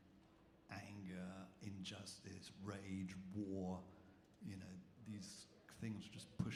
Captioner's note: none